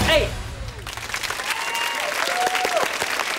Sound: clapping

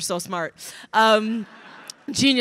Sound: crowd laughing

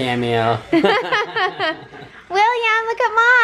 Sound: laughing

